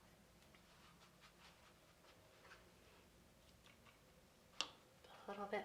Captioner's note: paintbrush scratching